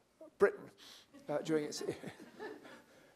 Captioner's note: laughter